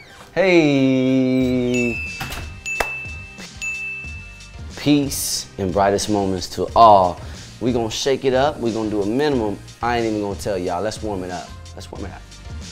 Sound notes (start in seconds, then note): 1.7 ding; 12.5 gentle music